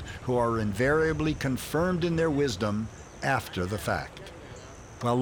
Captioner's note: none